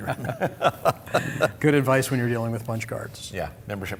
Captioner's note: laughter